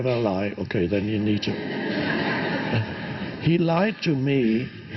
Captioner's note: audience laughs